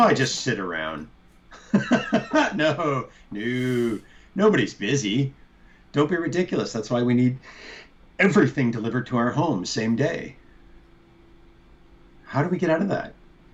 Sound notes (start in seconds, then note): 1.5 laughter